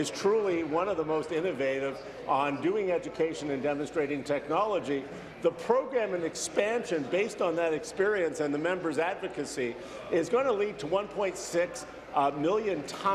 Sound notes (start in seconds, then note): none